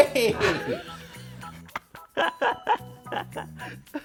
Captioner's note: laughs